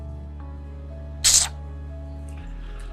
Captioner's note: hiss